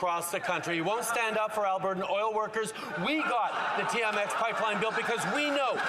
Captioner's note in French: voix de l'interprète